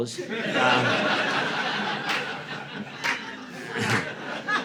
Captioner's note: audience laughing